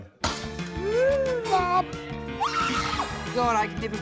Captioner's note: grunts; screams